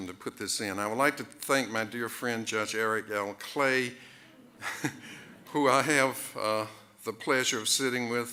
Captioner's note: chuckles